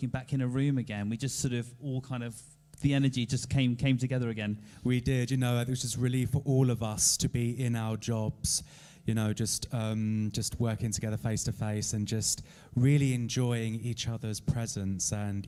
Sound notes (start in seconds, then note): none